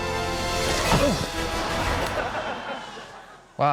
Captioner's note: grunts